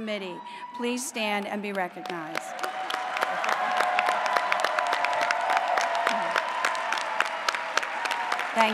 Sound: applause

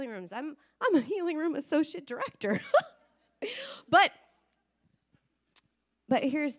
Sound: laughing

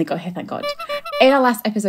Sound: clown horn

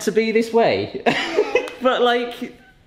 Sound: laughs

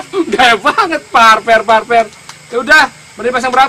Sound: laughs

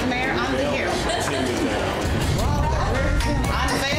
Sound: laughs

